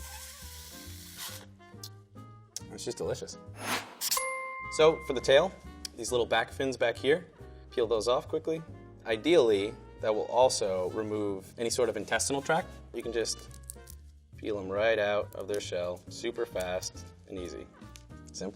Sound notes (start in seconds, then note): 0.0 mouth sucking; 4.0 dinging